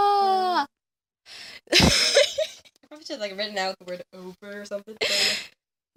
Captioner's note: laughter